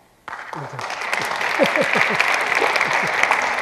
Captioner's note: applause